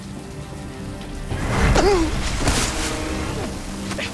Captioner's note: grunts